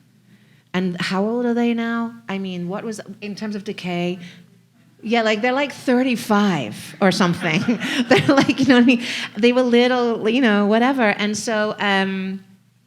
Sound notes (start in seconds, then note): 7.0 audience laughing